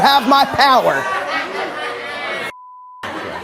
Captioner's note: audience laughing; beep